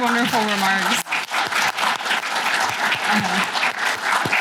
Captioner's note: applause